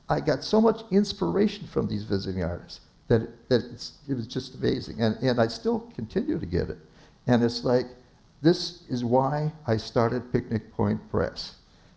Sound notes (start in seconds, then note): none